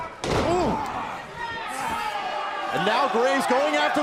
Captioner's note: crowd cheering